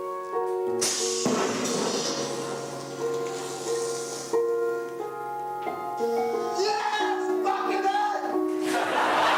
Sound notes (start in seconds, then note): 1.8 poofing; 8.6 crowd laughing